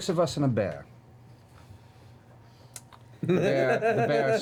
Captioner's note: laughs